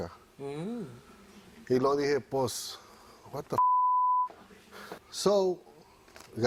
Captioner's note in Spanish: Bip